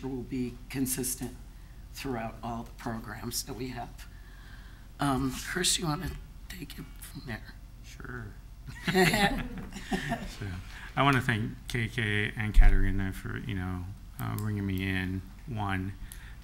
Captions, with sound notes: will be consistent throughout all the programs that we have. Chris, you wanna take it from there? Sure. (laughing) I want to thank KK and Katerina for, bringing me in, one,